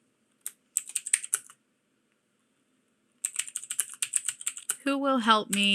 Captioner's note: keyboard typing